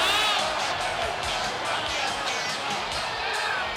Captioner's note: audience cheering